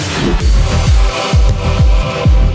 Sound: hard knock

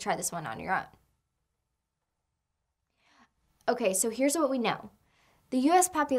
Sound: pause

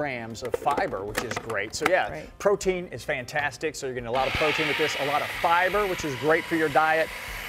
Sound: grinding noise

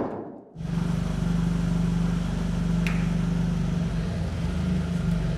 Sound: forklift engine whirring

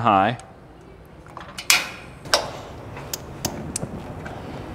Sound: gas knob clinking

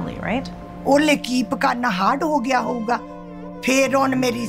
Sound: speaking Punjabi

